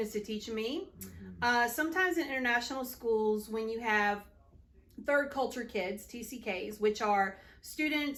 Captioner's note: tcks